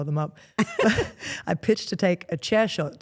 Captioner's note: Steph laughs